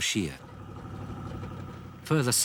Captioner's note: engines rumbling